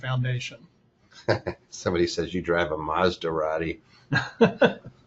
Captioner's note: laughs